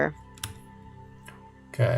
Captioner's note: keyboard typing